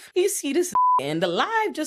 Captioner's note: beep